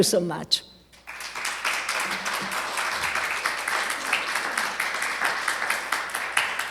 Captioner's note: applause